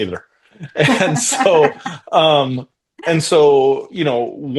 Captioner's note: laughing